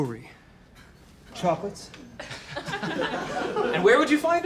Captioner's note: laughter